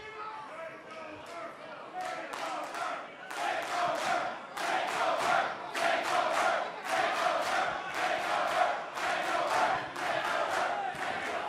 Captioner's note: crowd cheering